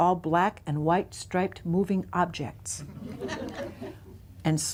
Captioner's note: laughter